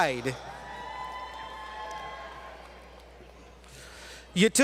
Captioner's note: applause